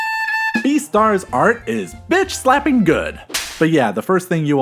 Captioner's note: slap